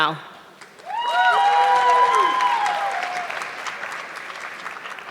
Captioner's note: audience clapping